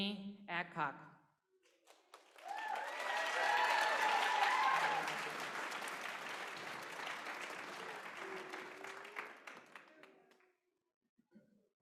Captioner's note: applause